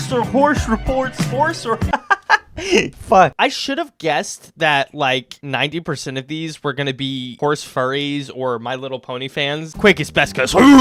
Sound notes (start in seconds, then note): 2.5 inhale